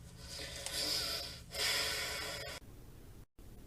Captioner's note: deep sigh